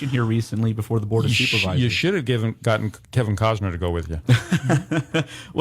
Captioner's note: laughing